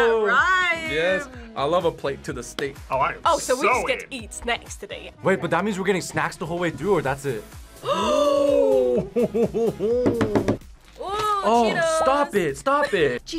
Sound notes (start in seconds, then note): 7.8 both gasp; 8.8 laughs